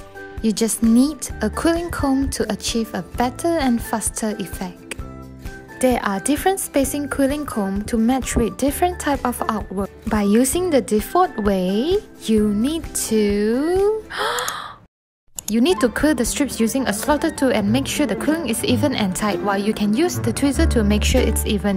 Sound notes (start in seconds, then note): 14.1 breath in